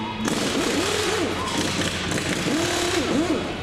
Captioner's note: machine drilling